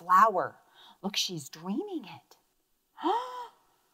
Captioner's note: gasps